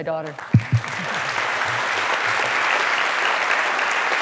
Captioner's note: applause